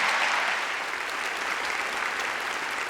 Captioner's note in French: Applaudissements